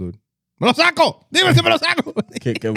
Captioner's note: speaking In Foreign Language